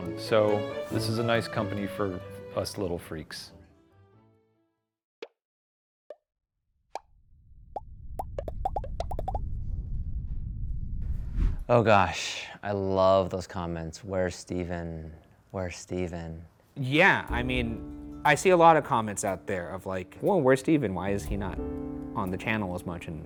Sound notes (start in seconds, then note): 5.3 comments popping